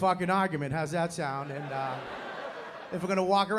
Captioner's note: laughter